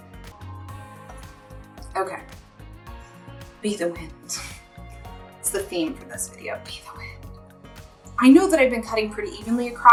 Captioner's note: whispers